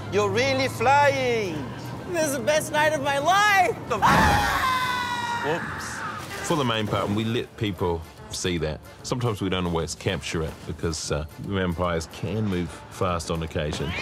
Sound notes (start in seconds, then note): 4.0 screams